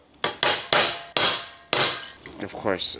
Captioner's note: metal clanking